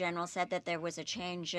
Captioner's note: speaking French